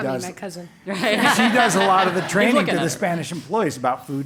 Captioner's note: laugh